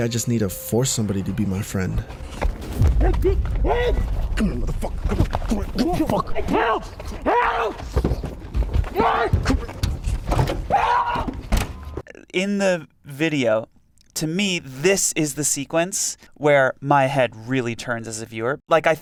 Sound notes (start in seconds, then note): 7.2 man shouts